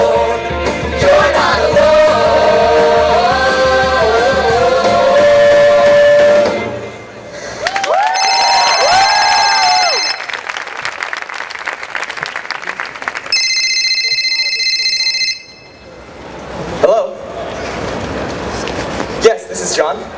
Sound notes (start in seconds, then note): 6.8 phone ringing